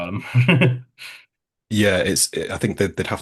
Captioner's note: chuckles